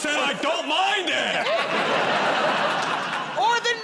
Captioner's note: laughter